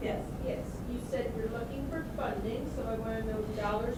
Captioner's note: voiceover